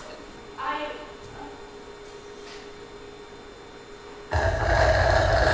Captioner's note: slurp